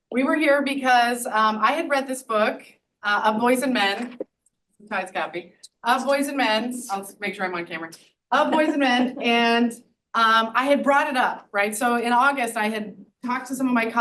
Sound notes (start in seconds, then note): 8.4 audience laughs